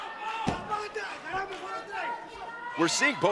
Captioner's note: speaking in foreign language